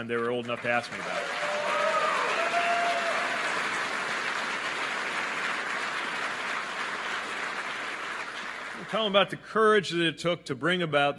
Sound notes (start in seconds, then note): 6.0 applause